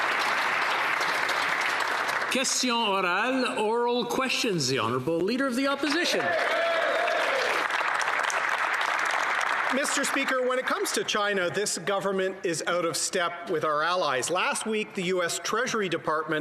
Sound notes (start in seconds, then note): 3.8 applause